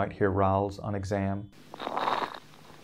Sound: sound of rales

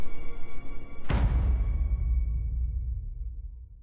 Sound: thud

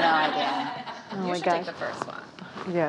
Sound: laughing

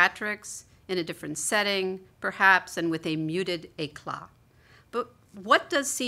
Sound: non-english

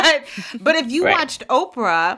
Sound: laughter

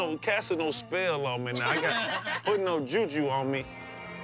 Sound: laughing

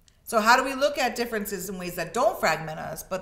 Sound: none

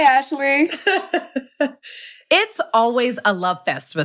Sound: laughs

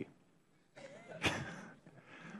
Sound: laughter

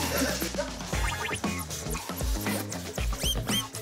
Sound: blop blop

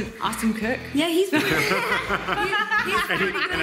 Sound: laughter

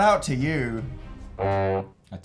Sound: snake honk

